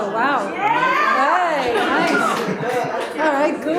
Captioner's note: audience cheering